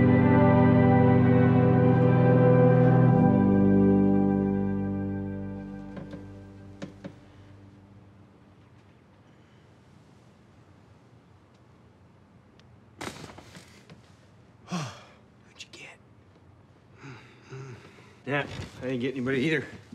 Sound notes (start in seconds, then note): 14.6 Rufus sighs; 17.4 Rufus grumbles